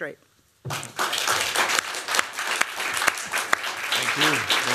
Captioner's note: applause